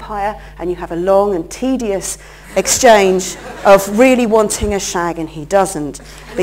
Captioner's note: laughter